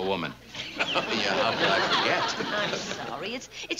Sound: laughs

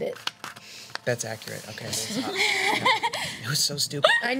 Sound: laughing

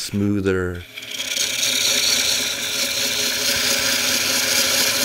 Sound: wood scraping

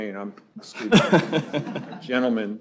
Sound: laughter

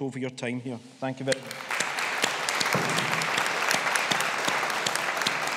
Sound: audience applauding

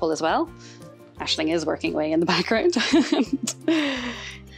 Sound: laughs

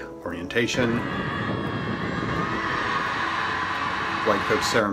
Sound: students cheering

